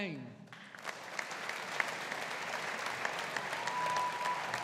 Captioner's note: audience applauding